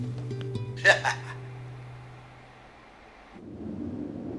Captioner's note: Ram chuckles